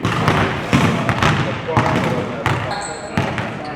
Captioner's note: basketball sounds on court